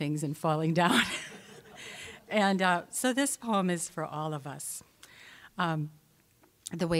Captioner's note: audience laughing